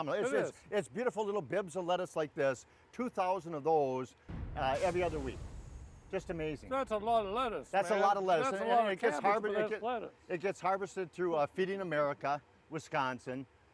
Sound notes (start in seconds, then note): 4.4 flames sizzling